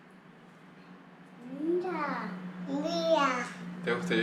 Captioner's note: kids admiring